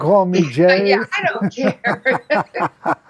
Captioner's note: chuckles